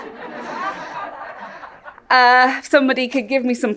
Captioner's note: audience laughs